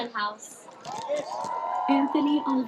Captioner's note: cheering, applause